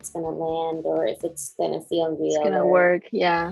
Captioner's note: murmurs